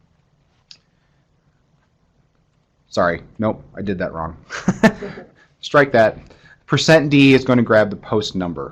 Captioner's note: laughter